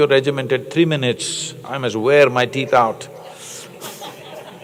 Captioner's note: laughter